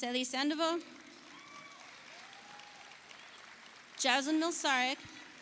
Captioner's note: audience applauds